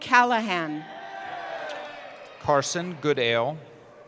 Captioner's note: cheering